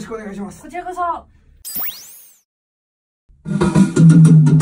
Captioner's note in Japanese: 効果音